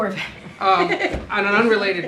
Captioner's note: laughter